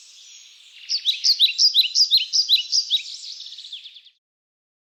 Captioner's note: birds singing